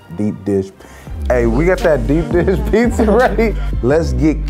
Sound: laughing

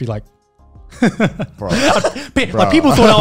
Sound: chuckles

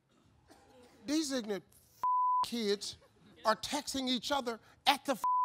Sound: beep

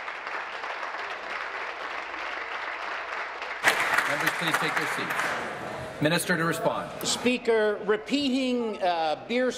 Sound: applause

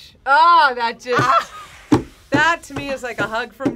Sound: laughs

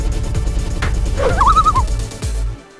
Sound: loon call

